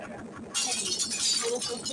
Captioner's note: pico shouts